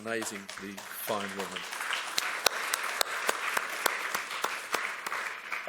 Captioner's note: audience applauds